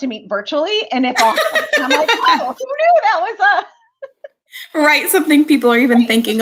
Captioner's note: laughter